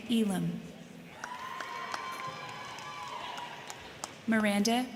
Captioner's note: crowd cheering; crowd clapping